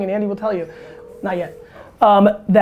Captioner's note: phone ringing